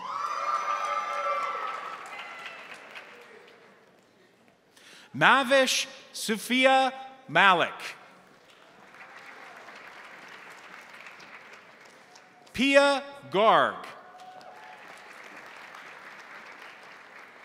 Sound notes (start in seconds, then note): 0.0 crowd cheering; 0.0 crowd applauding; 8.3 crowd applauding; 14.0 crowd applauding